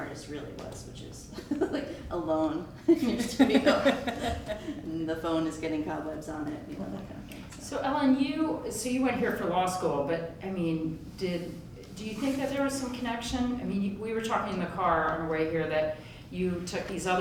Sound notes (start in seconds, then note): 2.8 laughter